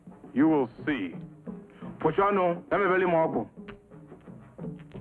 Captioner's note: witch doctor speaking in foreign language